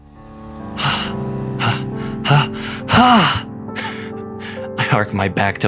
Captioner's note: sighs and panting